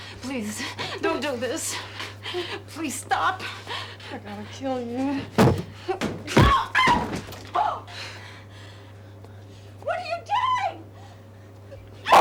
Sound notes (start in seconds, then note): 6.4 screams